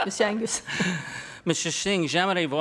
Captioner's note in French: rires